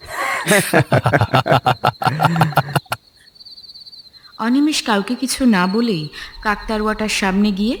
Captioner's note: loud laughter